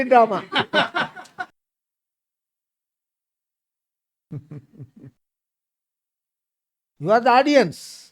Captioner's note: laughs